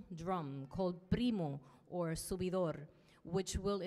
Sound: speaks in Spanish

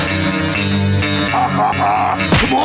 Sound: laughing

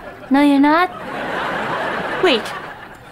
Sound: laughing

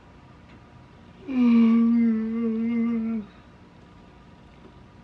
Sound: yawns

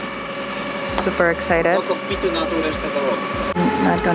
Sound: sailors speaking Polish

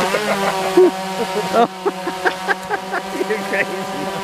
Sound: laughter

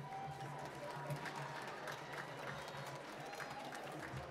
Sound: applause

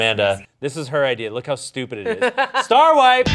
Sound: laughing; upbeat music

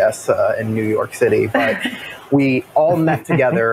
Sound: laughs

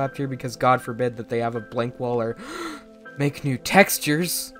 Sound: gasp

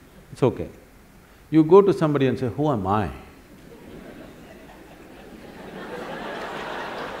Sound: laughter

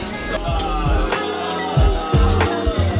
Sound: cheers

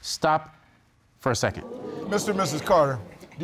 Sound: audience gasp

